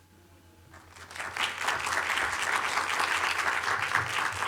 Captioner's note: applause